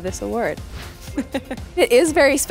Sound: laughs

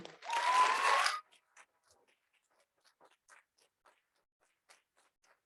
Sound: audience cheering

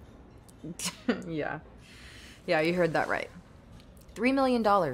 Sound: chuckles

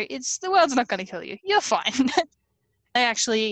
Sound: laughs

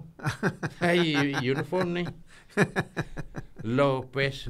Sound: laughing

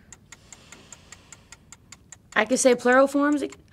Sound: clock ticking

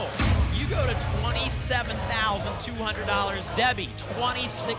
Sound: audience chanting "double!"

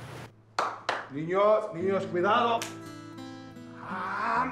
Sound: Spanish spoken audio

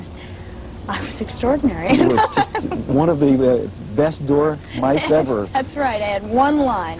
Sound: laughing

